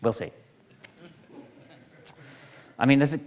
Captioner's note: audience laughing